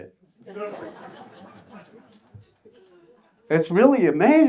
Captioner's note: audience laughs